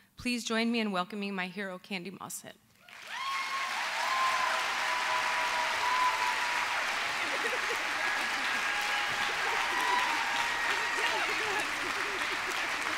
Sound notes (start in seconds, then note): 3.5 applause